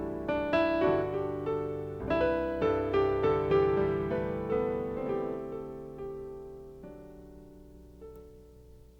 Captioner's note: none